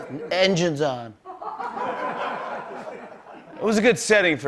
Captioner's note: laughter